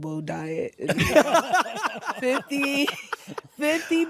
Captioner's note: all laugh